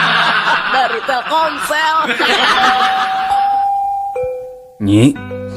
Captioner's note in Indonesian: tertawa